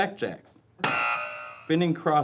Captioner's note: buzzing